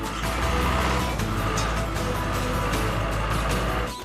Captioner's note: engine Running